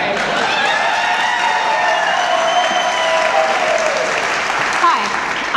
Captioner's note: audience applause